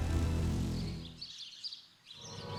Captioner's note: birds chirping